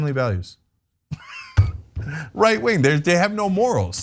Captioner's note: laugh